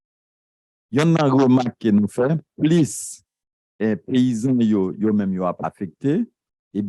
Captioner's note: speaking a foreign language